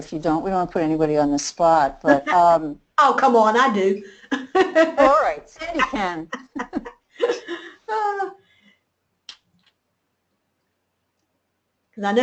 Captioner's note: laughing